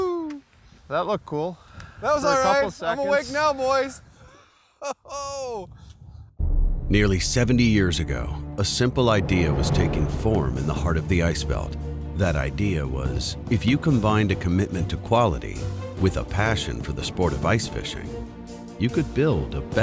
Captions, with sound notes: - [Voiceover] That looked cool for a couple seconds. - I'm awake now boys. - [Voiceover] Nearly 70 years ago, a simple idea was taking form in the heart of the ice belt. That idea was, if you combine a commitment to quality with a passion for the sport of ice fishing, you could build a